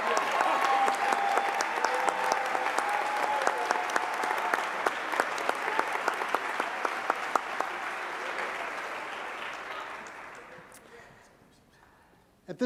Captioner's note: applause